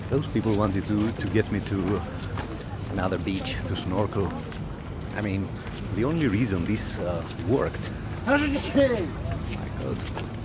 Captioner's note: man sneezes